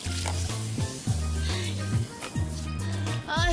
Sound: Bryan sighs

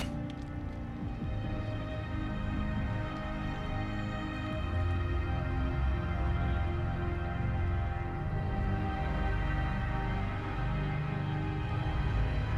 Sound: cocks gun

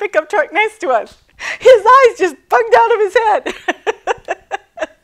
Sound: laughing

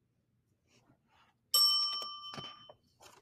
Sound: bell dings

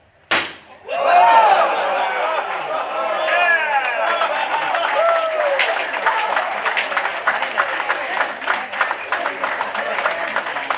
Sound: crowd Cheers and Applause

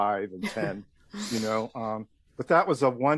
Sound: speaker chuckles

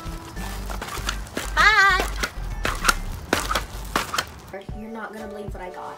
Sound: bouncing noises

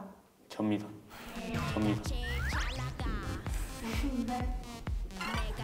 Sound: haha

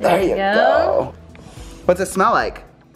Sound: sniffs

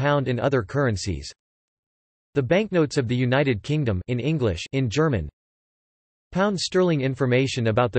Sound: in German

